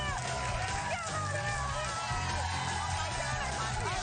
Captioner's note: cheers and applause